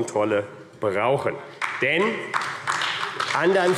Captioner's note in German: Beifall AfD